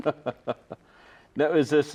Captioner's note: all chuckling